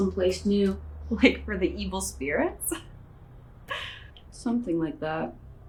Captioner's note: laughs